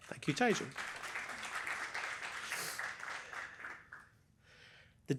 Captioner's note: applause